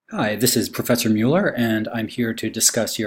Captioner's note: voiceover